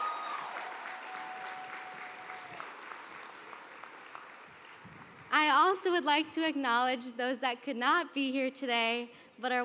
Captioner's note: cheers and applause